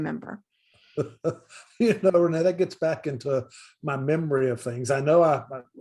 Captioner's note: laughs